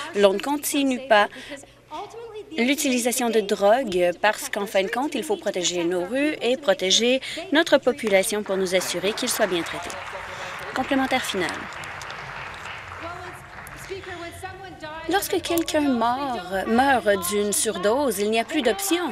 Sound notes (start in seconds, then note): 12.2 applause